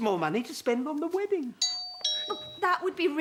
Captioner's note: doorbell